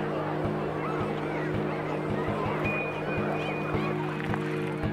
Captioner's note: low crowd chattering